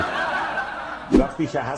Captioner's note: laughter